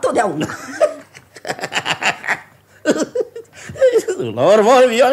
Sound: laughs

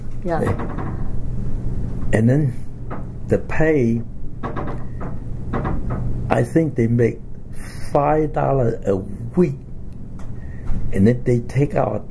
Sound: coughs

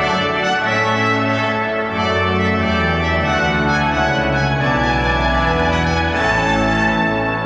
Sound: none

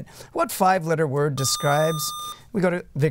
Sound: buzzer

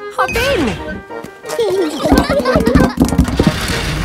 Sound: children giggling

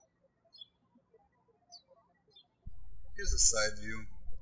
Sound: birds chirping

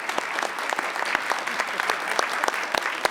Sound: laughing; clapping

